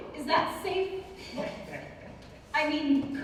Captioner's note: Morgan chuckles